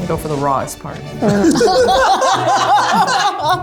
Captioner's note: laughter